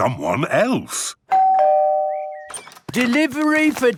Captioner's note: door bell ringing